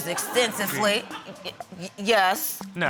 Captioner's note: stammers